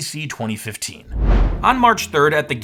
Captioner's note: air whooshes